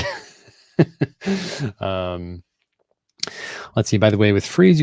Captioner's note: laughing